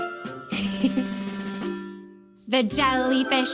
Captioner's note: chuckles